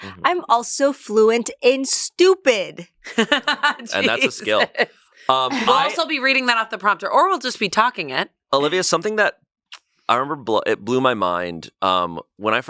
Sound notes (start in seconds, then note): 3.0 chuckles